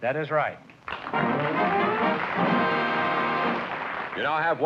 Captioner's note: applause